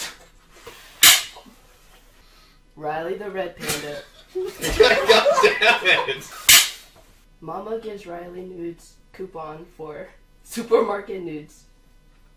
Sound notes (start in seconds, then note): 4.2 laughter